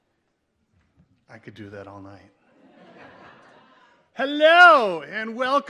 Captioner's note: audience laughs